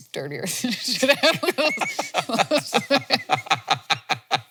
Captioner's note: both laughing